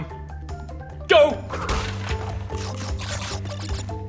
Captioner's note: game sound effects start